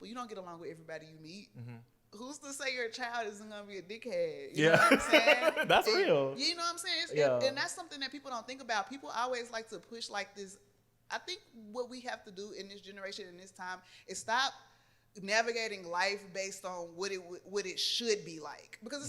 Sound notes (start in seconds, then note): 4.6 laughs